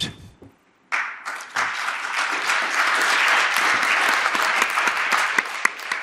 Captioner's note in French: Public applaudissant